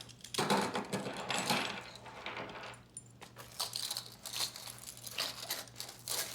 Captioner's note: handcuffs and shackles clanging